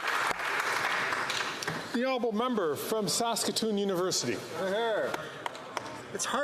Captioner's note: applause